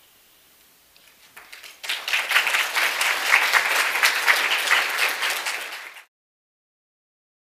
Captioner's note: applause